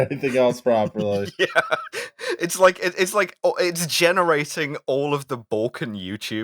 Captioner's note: laughter